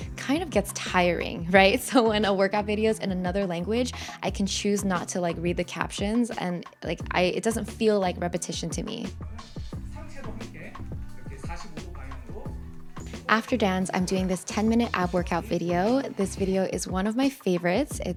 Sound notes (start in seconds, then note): 9.7 person speaking in foreign language